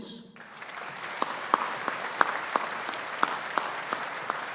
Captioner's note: audience applauding